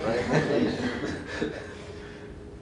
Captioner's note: laughter